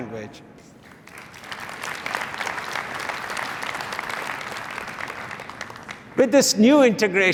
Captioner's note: applause